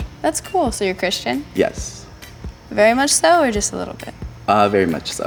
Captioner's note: none